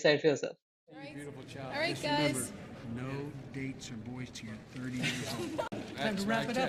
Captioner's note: background chatter